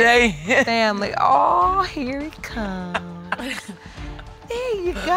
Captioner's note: laughs